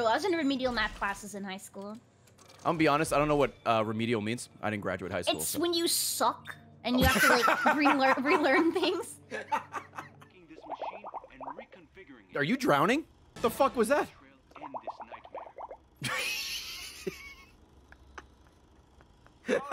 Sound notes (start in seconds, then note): 10.6 bubble noises; 16.0 laughs